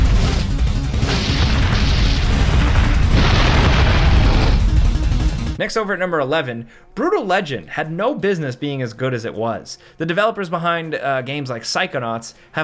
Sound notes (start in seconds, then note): 0.8 explosions blasting; 0.9 projectiles whooshing; 3.3 dinosaur roars